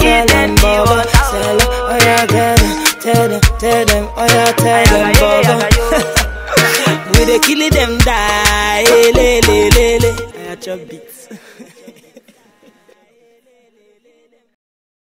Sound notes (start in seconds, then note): 4.8 chuckles; 11.1 singer chuckling